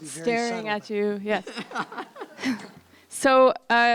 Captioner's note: polite laughter